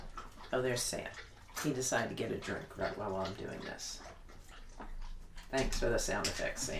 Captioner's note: sound of dog drinking water